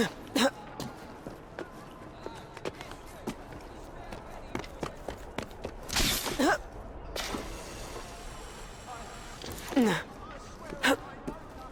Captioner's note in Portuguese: limpando a garganta